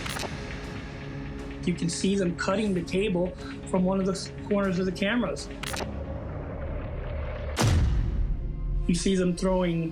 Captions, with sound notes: ... you can see them cutting the cable from one of the corners of the cameras. [smashing] You see them throwing